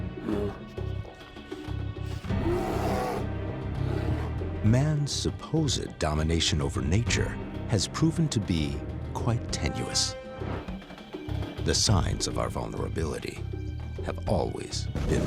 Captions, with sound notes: [bear grunts] [growls] Man's supposed domination over nature has proven to be quite tenuous.